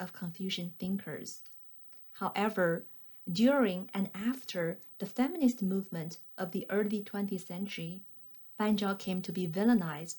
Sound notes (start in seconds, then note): 1.9 click